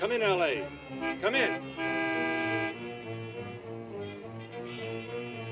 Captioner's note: horn honking